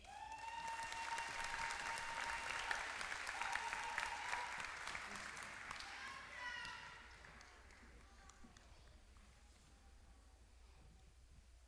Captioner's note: applause